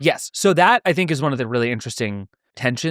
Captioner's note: none